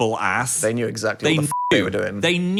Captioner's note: beep